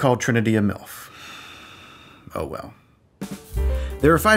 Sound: sighs

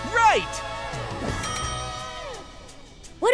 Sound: bell dings

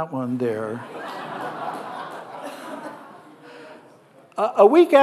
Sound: audience laughing

